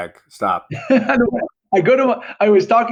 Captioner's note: laughing